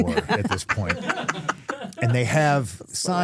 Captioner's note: all laughing